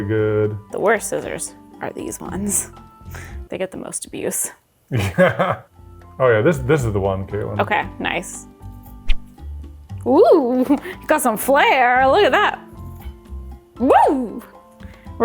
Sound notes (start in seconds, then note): 5.0 laughs